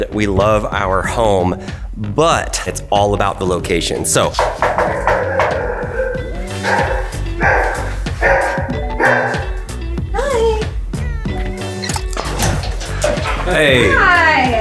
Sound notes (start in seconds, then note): 4.3 knocks on door; 5.0 dog barking